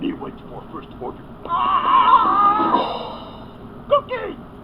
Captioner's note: Grover yelling